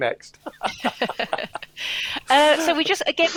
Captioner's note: laughter